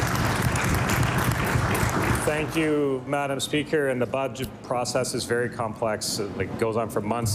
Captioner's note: applause